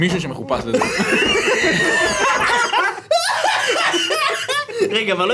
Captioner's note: laughs